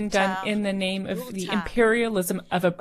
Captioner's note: speaking French